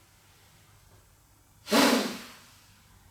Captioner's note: sharp exhale